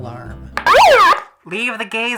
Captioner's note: siren blaring